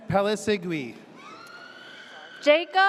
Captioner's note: audience cheers